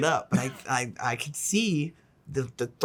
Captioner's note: chuckles